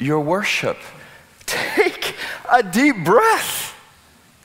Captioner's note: chuckling